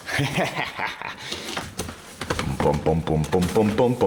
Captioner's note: laughing